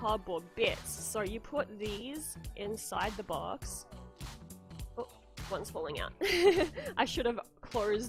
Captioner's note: laughs